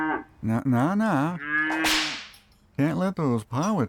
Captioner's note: mooo; whip crack